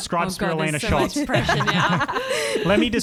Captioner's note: laughter